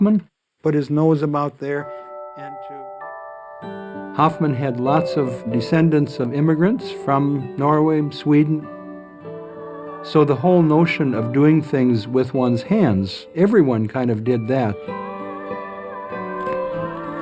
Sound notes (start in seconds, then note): 1.9 church bells ringing